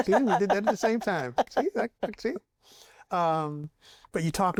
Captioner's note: laughs